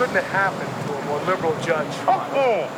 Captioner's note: muffled curse